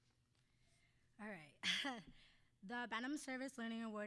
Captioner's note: chuckling